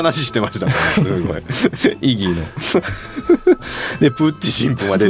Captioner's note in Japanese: 笑い